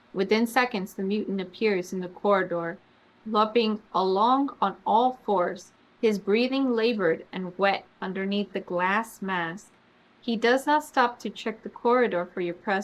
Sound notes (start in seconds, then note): none